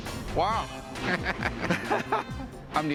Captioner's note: laughter